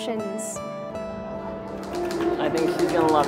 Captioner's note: crowd talking